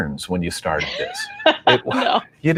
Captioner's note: laughing